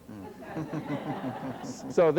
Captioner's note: laughter